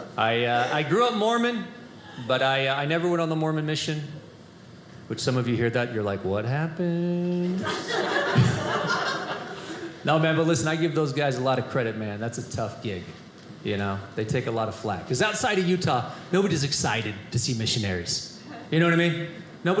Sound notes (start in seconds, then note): 7.6 audience laughing